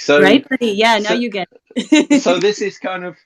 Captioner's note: laughs